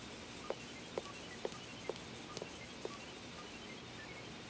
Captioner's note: footsteps leaving